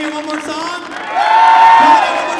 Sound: audience cheering

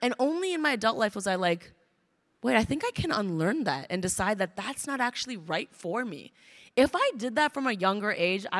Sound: none

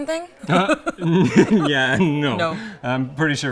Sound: laughing

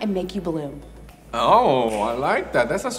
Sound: snaps

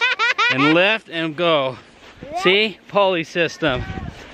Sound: laughing

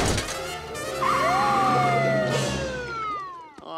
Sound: siren blaring

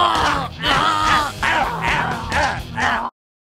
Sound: groaning; still groaning

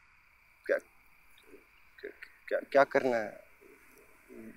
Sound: Pinki sobs

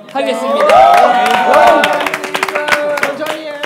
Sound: applause!

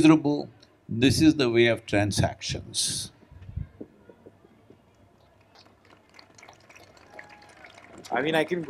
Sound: applause

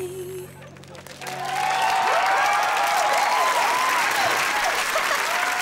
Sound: cheering, applauding

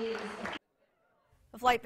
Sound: applause

